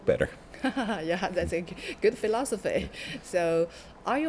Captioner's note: laughs